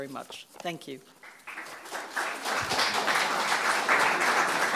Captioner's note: audience applauding